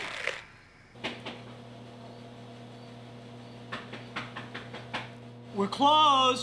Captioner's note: door knocking